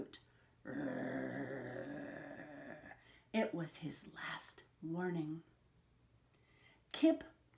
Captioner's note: growls